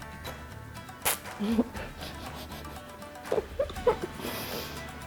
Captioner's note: laughs